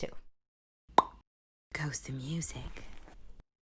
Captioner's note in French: son *pop